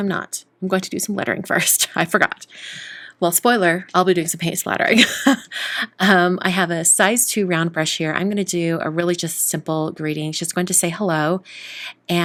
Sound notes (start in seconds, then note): 5.0 laughs